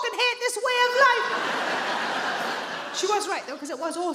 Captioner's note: audience laughs